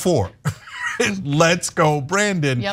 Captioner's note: laugh